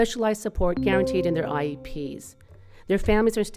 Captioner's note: bell dinging